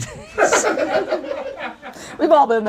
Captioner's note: audience laughs